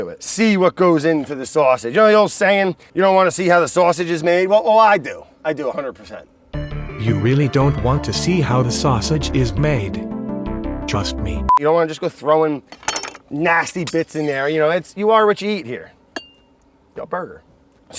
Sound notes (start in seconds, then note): 7.3 robot Voiceover